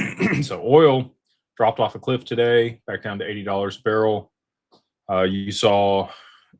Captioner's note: clears throat